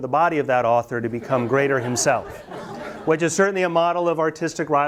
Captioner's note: students laugh